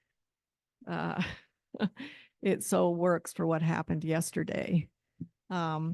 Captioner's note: chuckles